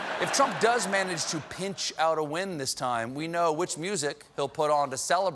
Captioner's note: laughter